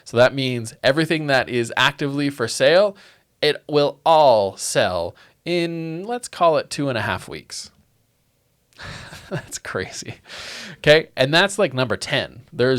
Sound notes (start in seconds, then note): 8.8 laughing